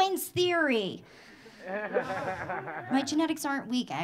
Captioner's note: audience laughing